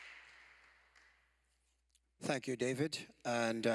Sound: applause

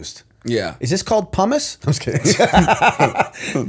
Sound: laughter

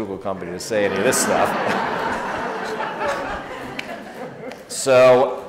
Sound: audience laughs

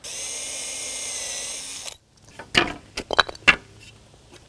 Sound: drill whirring

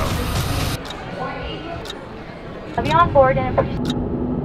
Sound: clock ticking

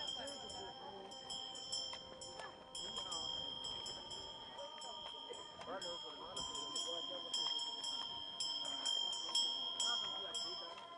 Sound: bell ringing

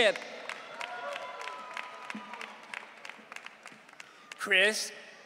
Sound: audience cheering

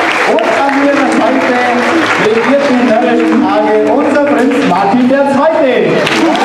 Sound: applause

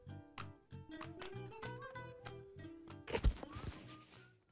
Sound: thump and scratching

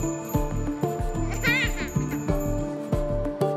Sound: laughs

